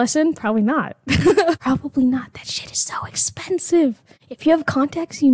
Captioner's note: whispering